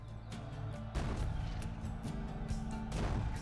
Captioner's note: crowd yelling; cannon fire